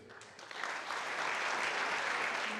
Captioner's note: applause